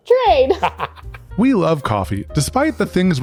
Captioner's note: laughs